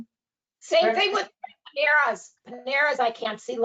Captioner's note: audio distorting